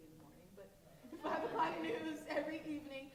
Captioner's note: laughing